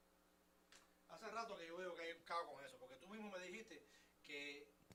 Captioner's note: speaking Spanish